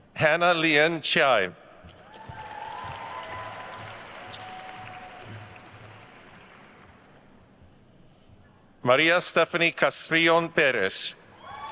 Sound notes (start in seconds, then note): 2.0 attendees cheering and applauding